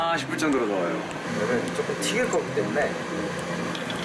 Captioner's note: pouring